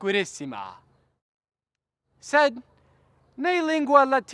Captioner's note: none